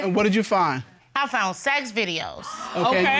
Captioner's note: audience exclaiming